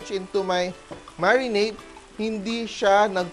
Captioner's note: sizzle